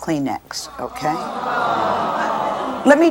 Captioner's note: audience ah's